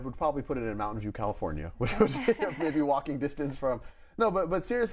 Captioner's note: laughs